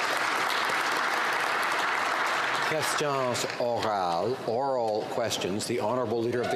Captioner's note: some Applause